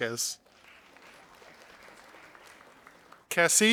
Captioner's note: audience applauding